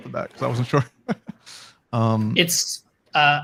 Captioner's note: laughing